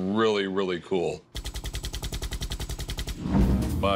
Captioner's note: machine gunfire